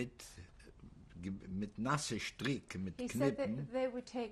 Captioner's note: speaking yiddish